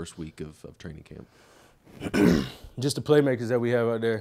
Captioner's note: clearing his throat